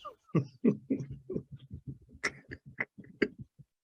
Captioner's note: chuckles